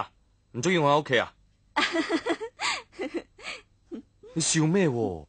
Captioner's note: laughter